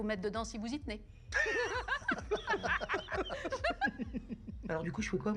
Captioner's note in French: rires